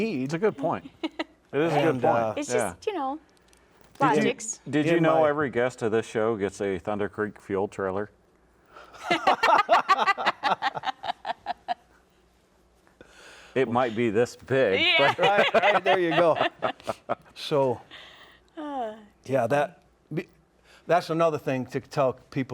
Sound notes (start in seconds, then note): 9.0 laughing